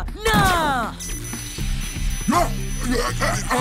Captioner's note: Clothespins beeping